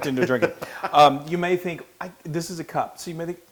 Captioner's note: laugh